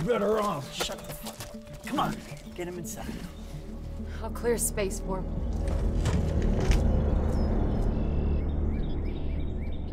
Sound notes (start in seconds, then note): 6.4 birds chirping